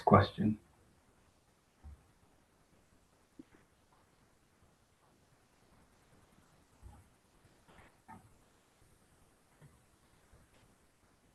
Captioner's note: pause